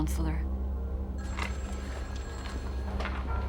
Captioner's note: telephone rings